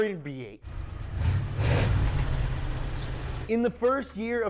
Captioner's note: engine revving